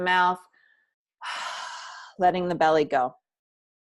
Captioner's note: loud breath